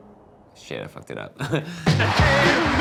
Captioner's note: laughs